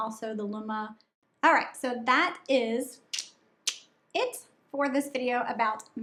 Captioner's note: tongue clicking